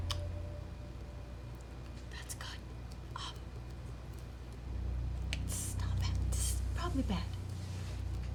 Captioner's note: whispering